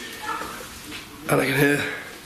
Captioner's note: child yapping